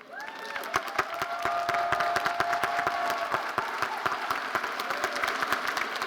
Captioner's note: audience cheering and applauding